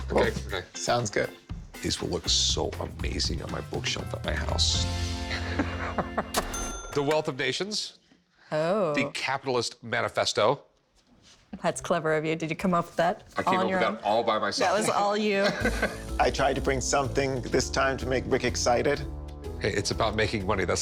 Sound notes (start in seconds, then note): 5.3 Rick chuckling; 6.3 cash register dings